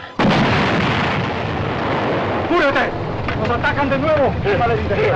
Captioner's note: explosion